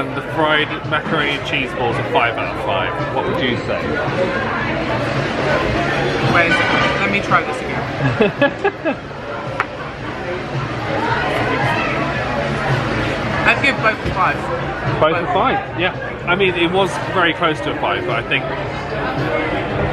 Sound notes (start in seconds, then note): 8.0 laughs